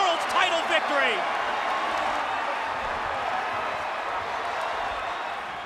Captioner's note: audience cheering